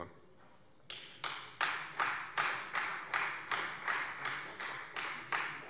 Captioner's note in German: Beifall Freie Demokraten